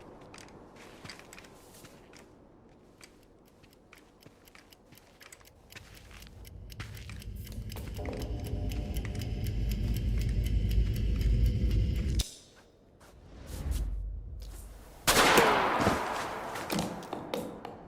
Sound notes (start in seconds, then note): 2.8 clock ticking; 15.0 gunshot